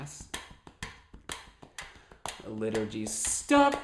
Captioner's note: tapping and ticking sound